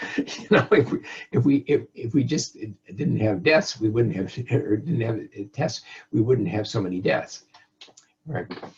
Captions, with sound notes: and (chuckles) if we just didn't have deaths, or we didn't have tests, we wouldn't have so many deaths, right.